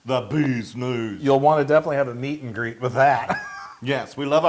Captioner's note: laugh